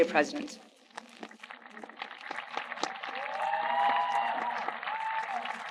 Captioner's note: audience applauding